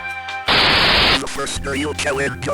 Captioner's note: static fades in and fades out again